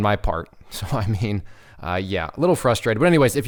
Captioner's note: laughs